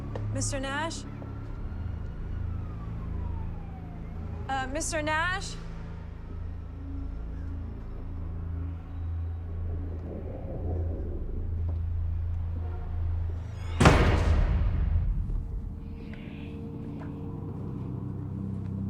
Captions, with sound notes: Mr. Nash? (police siren wailing) Uh, Mr. Nash? (eerie music) (door slams) (eerie music)